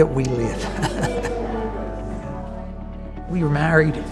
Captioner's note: laughing